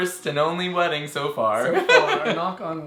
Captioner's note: laughs